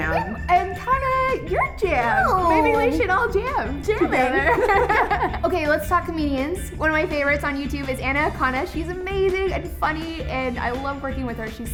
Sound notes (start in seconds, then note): 4.3 laugh loudly